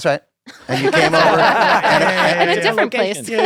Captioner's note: laughter